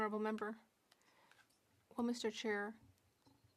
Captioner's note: speaking French